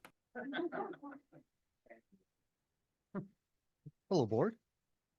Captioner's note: board members laughing